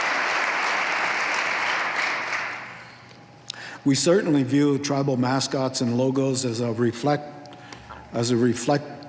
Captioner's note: appluse